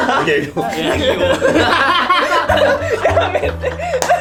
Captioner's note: laughs